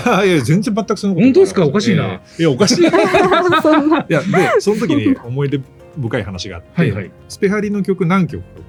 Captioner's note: laughs